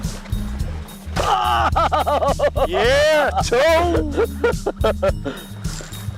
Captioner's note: laughter